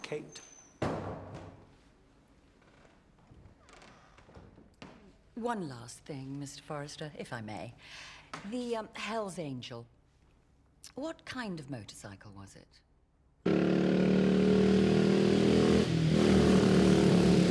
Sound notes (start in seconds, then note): 13.4 engine rumbling